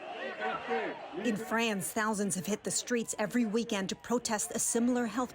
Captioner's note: chanting